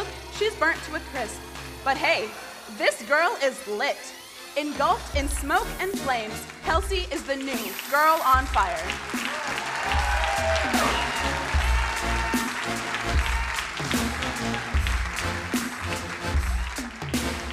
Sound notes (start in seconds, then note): 9.5 crowd cheering and applauding; 13.4 upbeat music